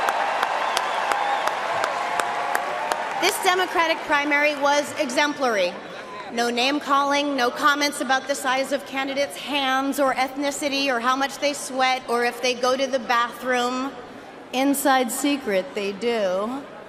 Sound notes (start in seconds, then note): 3.7 cheering and applause